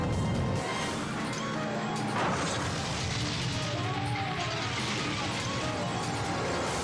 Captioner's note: dramatic music; car crashing